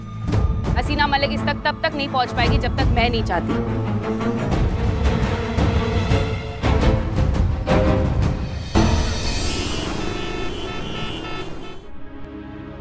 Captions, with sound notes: Haseena Malik will not find her without my wish. [tense music] [traffic noise]